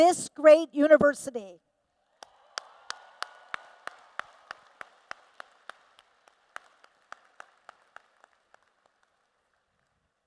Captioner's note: applause